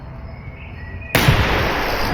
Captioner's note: gunshot